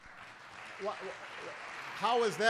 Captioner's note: applause